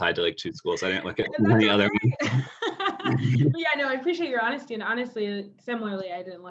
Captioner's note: laugh